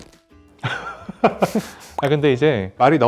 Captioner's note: laughs